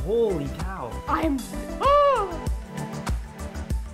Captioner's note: gasps; upbeat music